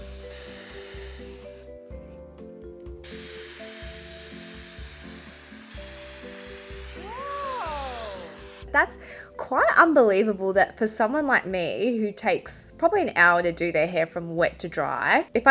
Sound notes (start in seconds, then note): 1.1 pleasant music; 3.0 hairdryer whirring